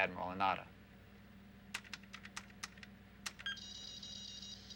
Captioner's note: keys clicking